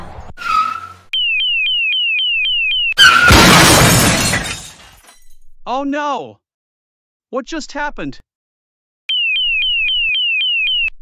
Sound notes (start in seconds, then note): 0.2 FX - Tire Squeal; 1.1 FX - Car Alarm - 01; 3.0 FX - Car Crash - 01; 9.1 FX - Car Alarm - 01